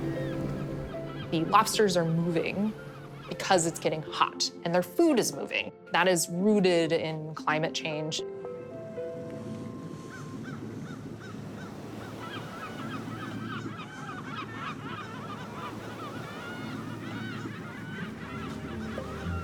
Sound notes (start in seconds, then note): 8.6 gentle music; 9.8 seagulls squawking